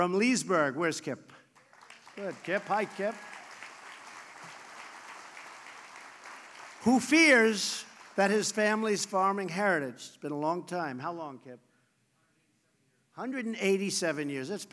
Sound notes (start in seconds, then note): 3.2 applause